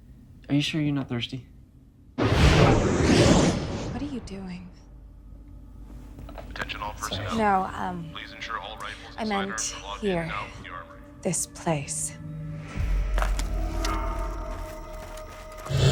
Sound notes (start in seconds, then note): 2.2 air whooshing; 12.0 suspenseful music